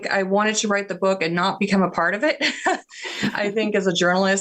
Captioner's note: chuckles